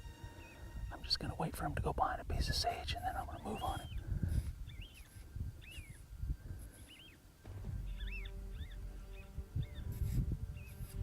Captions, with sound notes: I'm just gonna wait for him to go behind a piece of sage and them I'm gonna move on 'em. (coyote calls)